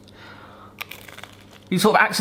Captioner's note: bread crunching